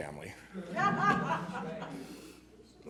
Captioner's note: laughter